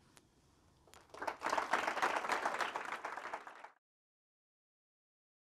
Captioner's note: audience applauding